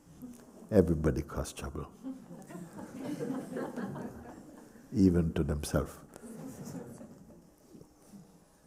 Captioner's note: laughter